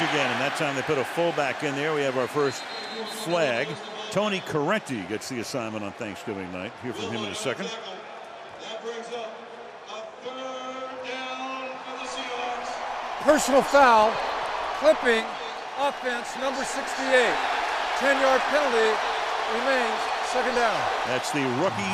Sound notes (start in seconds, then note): 17.6 cheering